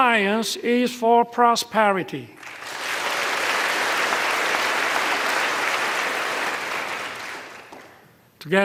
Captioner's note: applause